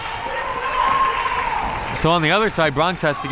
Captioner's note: crowd members cheering